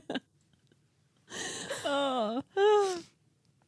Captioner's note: laughing